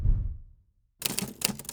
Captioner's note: whooshing; typing